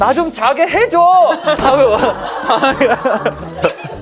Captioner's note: furious door slam